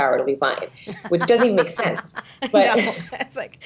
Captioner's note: laughing